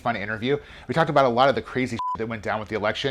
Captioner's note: beep